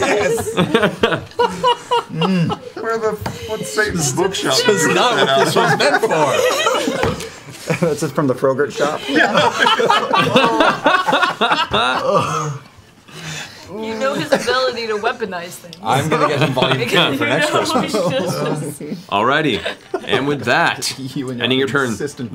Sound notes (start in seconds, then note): 8.7 laughter